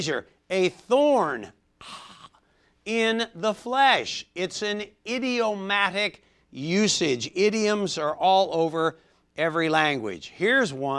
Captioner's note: ahh